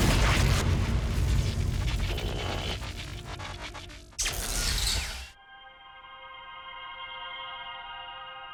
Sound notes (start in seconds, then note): 0.0 dramatic music; 3.3 buzzing and crackling; 7.1 gentle music